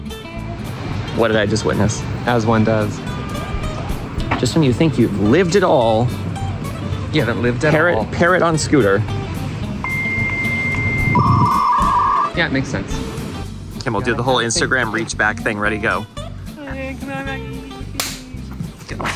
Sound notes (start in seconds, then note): 9.8 modem dealing up sound; 18.0 smack